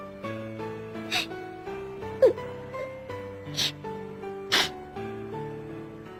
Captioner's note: sniff sniff